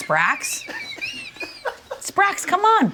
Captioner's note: all laughing